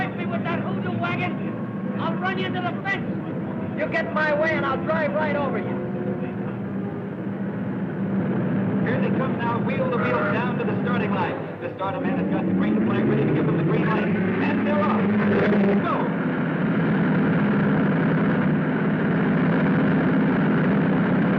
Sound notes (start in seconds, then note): 7.9 cars whirring; 12.3 cars thrumming; 16.2 cars thrumming